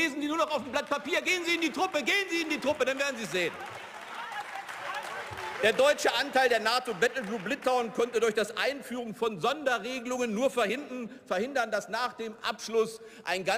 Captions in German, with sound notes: Lesen Sie nur noch auf dem Blatt Papier? Gehen Sie in die Truppe. Gehen Sie in die Truppe. Dann werden Sie es sehen. (Beifall) Der deutsche Anteil der NATO Battlegroup Litauen konnte durch das Einführen von Sonderregelungen nur verhindern, dass nach dem Abschluss